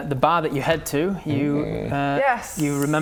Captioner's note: intrigued sound